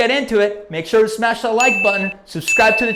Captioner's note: loud beep, loud beep